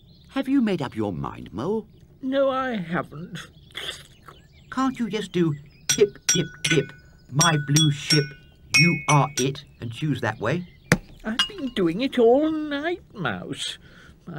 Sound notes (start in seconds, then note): 10.9 egg cracks